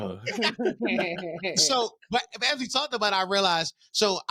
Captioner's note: laughing